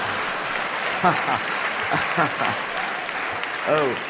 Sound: laughs

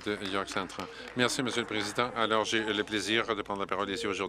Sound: applause

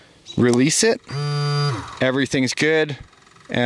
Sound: beeping

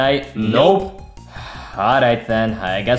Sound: Luigi sighing

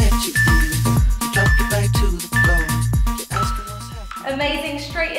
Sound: beeping sound

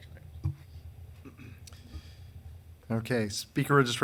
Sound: man clearing throat

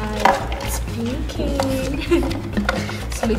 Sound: giggles

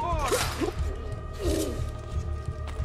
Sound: hidden blade stabbing sound

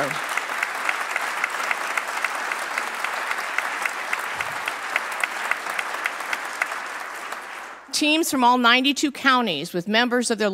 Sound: applause

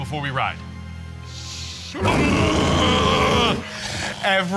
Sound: roaring

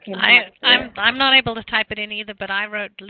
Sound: audio cutting out

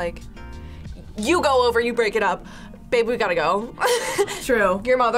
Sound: laughs

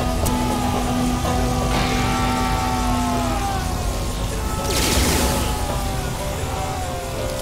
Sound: Robotised Ethan from Heavy Rain screaming "Sean" non-stop and gunshots

